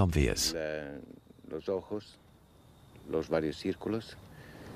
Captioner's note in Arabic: الصوت المنطوق باللغة الإسبانية